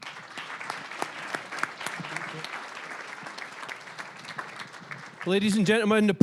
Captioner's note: applause